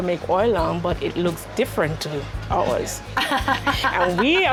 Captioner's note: laughs